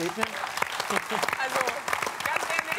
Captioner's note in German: Applaus